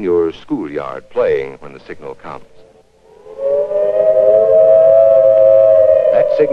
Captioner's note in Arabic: صفارة إنذار